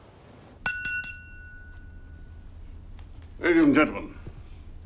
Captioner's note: glass clanging